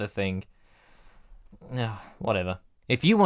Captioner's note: sigh